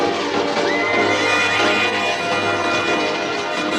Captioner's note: whinnying